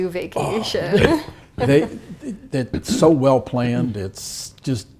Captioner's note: cough